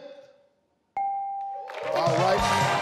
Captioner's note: bell rings; audience applauding